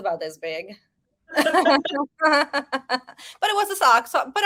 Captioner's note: both women laughing